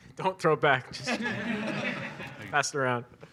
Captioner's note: audience laughs